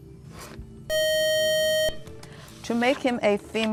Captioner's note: buzzer